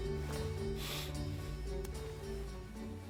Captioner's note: sniffs